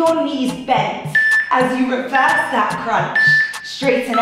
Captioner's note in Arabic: يصدر المؤقت صوت تنبيه